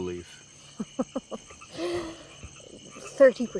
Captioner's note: chuckles